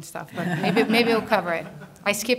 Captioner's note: laughter